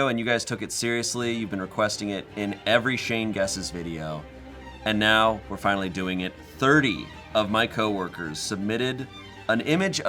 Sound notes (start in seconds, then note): none